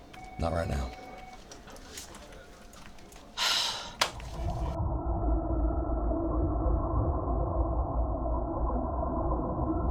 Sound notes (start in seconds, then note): 3.4 Reema sighs; 4.1 water warbling; 4.7 eerie music